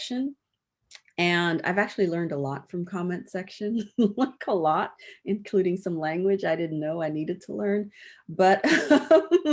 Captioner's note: laughs